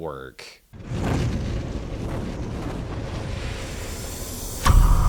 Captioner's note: wind whirring